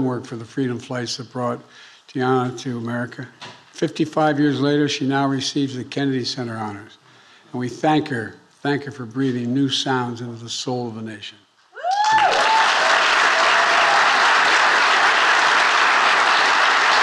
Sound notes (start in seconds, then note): 11.8 attendees cheering and applauding